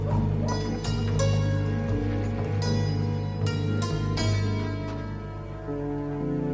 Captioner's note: dog barking